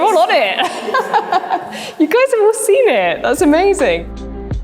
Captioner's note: laughs; soothing instrumental music